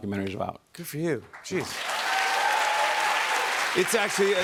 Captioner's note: cheers and applause